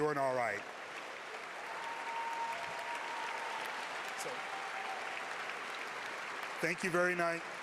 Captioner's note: cheers